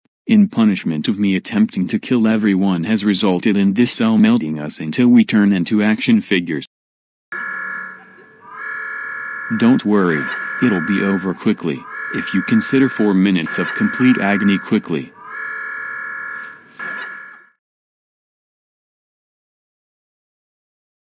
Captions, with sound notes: In punishment of me attempting to kill everyone has resulted in this cell melting us until we turn into action figures. (alarm blares) Don't worry. It'll be over quickly, if you consider 4 minutes of complete agony "quickly". (alarm continues)